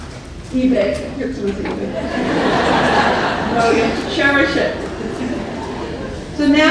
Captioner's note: laughter